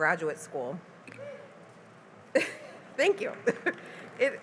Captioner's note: cheering